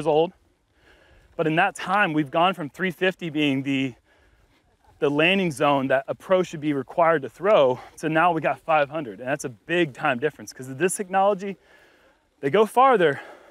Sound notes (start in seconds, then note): none